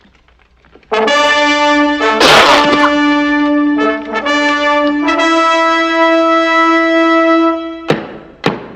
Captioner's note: horns blowing